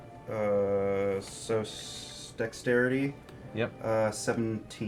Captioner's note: none